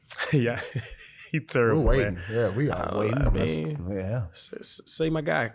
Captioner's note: laughs